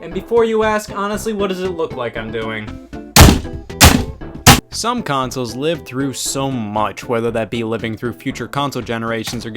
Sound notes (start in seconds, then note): 3.2 hammer pounding